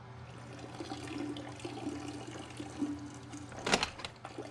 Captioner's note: urine trickling